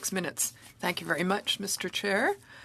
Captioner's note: speaking French